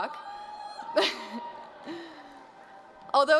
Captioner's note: cheers